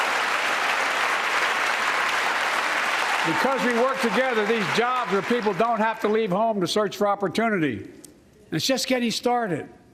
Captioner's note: cheers and applause